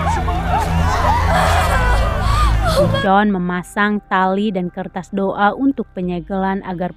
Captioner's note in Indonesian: berteriak